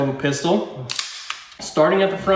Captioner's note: gun ratcheting